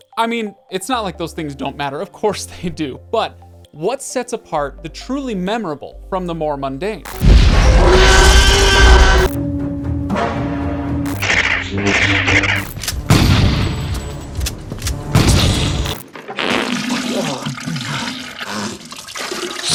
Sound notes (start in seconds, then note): 7.6 T-Rex roaring; 10.9 lightsaber buzzing; 12.8 gun firing; 16.1 Harry defecating loudly